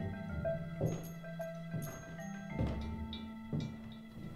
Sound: footsteps clicking

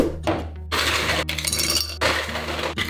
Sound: ice clanks

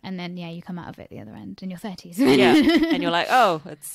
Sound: laughs

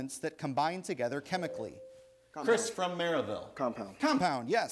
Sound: ding

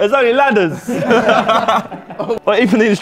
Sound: Sidemen laughing

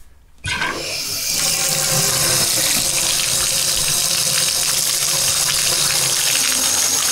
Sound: water runs

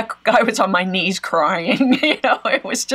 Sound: laughs

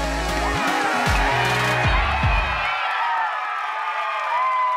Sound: crowd cheering

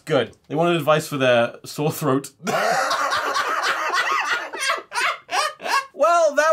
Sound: laughter

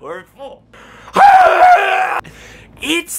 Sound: screams

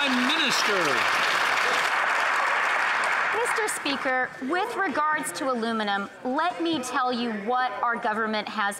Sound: some Applause

